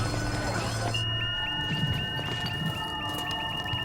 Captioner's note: devices beeping